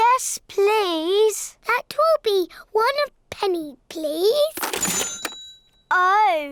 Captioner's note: dings